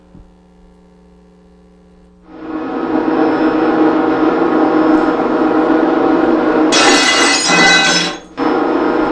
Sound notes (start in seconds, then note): 2.3 machines running; 6.7 glass breaking; 7.9 machine running